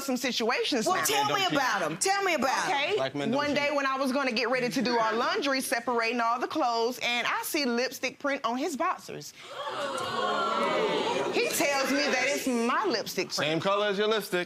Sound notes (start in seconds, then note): 9.5 audience oohing